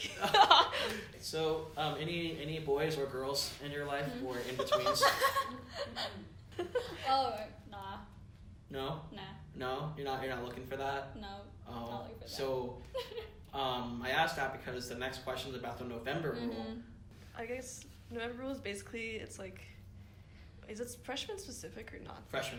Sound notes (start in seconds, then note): 0.1 laughs; 4.4 laughter; 12.8 giggles